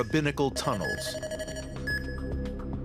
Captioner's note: beeps